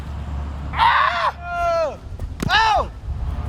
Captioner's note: player screams